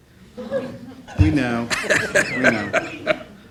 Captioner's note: laughing